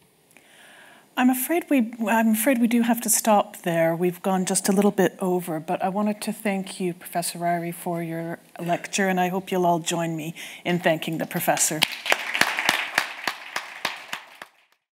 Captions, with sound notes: - I'm afraid we do have to stop there. We've gone just a little bit over, but I wanted to thank you, Professor Ryrie, for your lecture. And I hope you'll all join me in thanking the professor. (audience clapping)